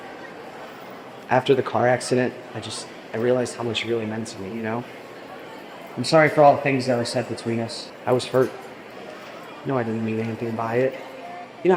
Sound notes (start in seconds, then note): none